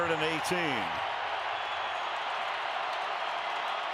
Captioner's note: crowd cheering